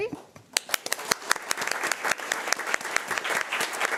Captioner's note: crowd applauding